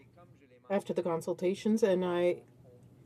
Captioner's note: speaking french